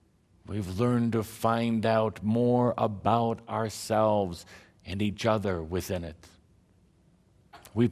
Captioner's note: none